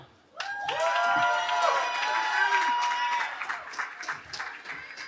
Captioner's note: cheering